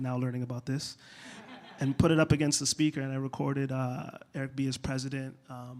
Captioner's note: laughter